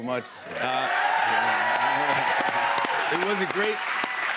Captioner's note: cheers and applause